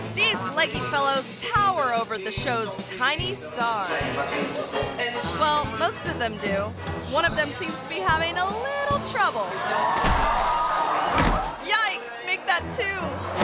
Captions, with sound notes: These leggy fellows tower over the show's tiny star. Well, most of them do. One of them seems to be having a little trouble. (audience gasps) (performer thuds) Yikes. Make that two!